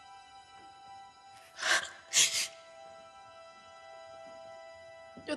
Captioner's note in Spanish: Sollozos